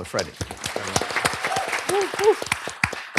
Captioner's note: applause